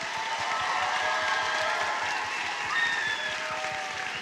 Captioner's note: applause and cheers